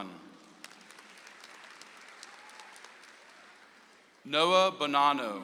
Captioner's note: audience applauds